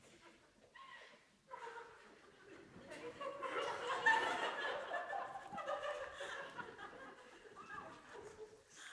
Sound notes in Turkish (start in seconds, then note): 1.5 Aralıklı kahkaha